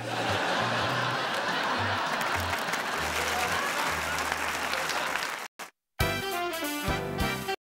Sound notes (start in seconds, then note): 0.0 laughter; 2.9 applause